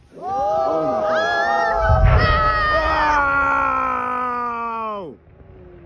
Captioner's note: cheering